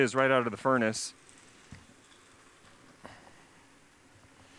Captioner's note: pause